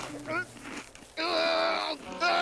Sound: groaning

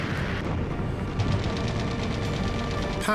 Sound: rattling

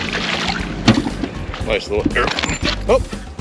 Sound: fish splashing

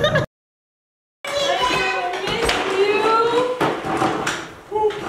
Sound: chatter

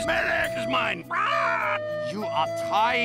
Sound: some eagle soldier sound??

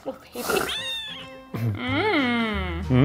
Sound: cat meows; both laughing

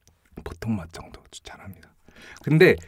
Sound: whispers

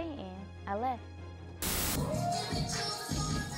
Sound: static

